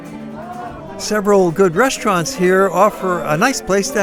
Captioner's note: market vendor shouts